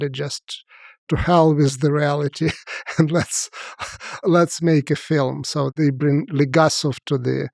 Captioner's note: laughs